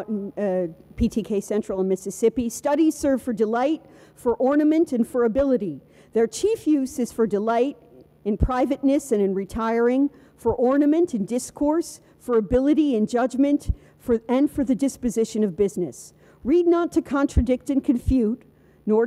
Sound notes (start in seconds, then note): none